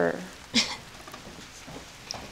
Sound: Laura laughs

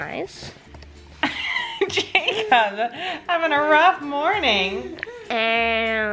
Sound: laughs

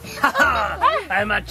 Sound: laughs mischievously

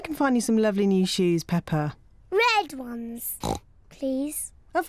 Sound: oinks

